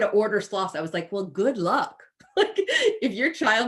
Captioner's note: chuckles